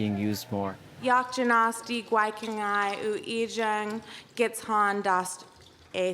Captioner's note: speaking in Xaat Kíl